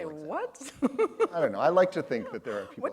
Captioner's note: laughter